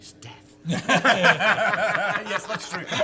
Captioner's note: laughing